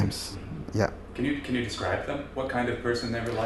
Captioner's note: none